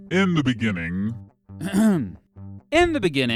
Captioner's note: clears throat